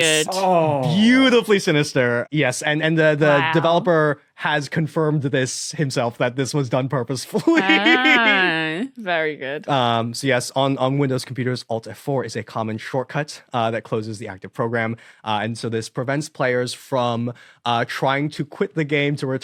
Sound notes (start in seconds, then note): 7.4 laughs